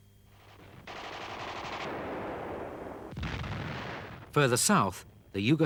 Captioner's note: guns firing; explosions booming